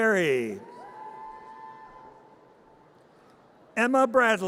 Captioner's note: audience cheers